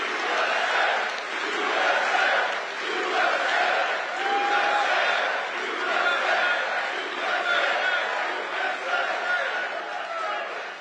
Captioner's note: audience chants "USA"